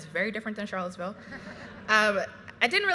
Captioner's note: graduates laughing